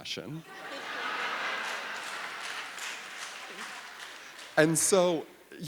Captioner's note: audience laughing; audience applauding